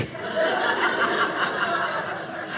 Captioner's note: audience laughing